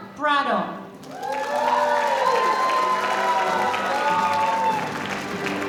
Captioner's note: audience cheering